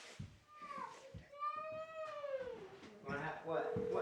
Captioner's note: continues to whine